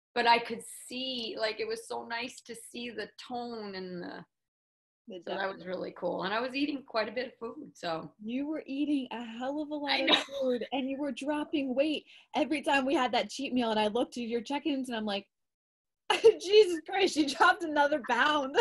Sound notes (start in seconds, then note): 10.0 laughs